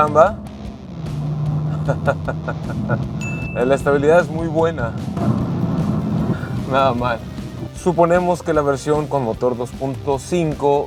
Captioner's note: laughter